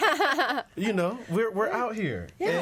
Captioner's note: all laughing